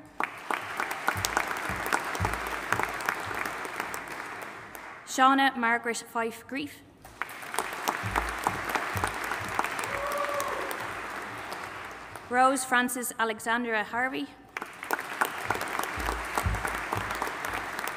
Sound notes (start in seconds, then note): 0.0 audience applauding; 7.1 audience applauding and cheering; 14.5 audience applauding